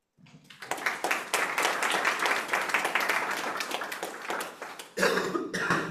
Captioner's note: audience applauding